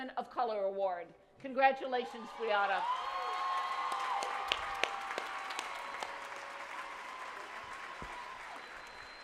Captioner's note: applause